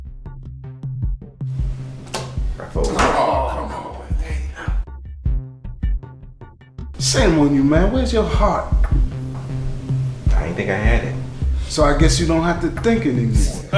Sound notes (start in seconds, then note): 2.6 players sigh in disgust; 13.2 people laugh